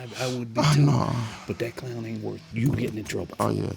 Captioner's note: groans